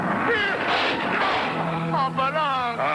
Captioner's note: Mr. Magoo thuds